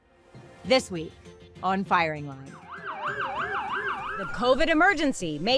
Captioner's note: siren wailing